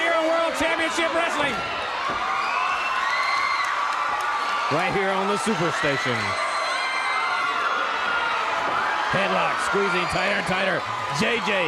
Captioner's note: crowd cheering